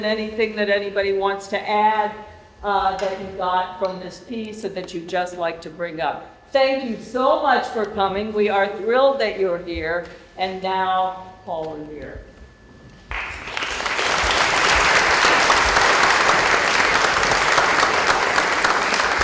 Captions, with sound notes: anything that anybody wants to add that you got from this piece that you'd just like to bring up. Thank you so much for coming. We are thrilled that you're here and now Paul Revere. [ Applause ]